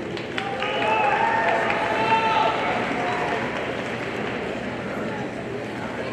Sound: audience cheering and applauding

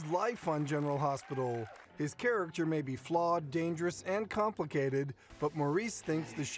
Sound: applause

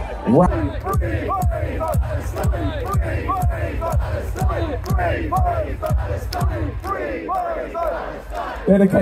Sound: cheering

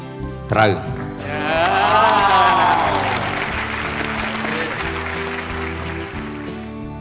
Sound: applause

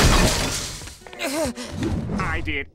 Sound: groaning

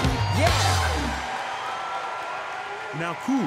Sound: crowd cheering

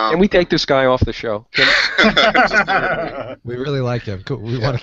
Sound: laughs

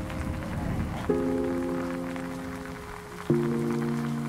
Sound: rain dripping

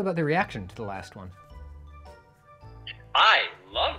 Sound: a dread silence

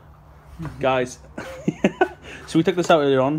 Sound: laughing

